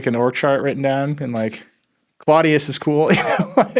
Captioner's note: laughs